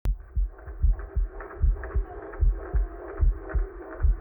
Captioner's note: heart beats